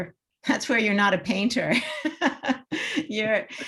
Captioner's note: chuckles; laughs